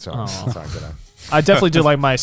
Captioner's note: laughs